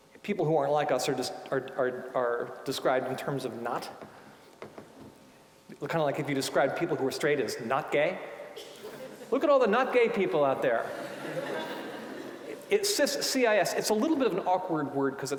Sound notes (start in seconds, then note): 8.8 audience laughing